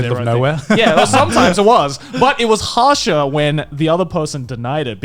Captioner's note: laughs